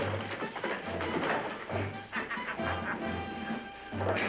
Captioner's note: laughter